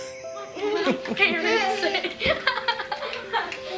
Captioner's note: laughing